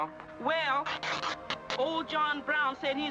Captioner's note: cloth tearing